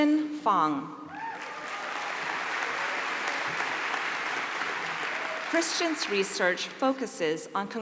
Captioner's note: applause